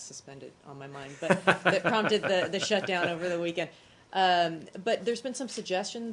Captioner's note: laughter